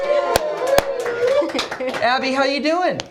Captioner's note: cheers and applause